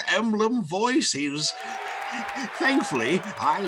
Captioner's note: audience cheering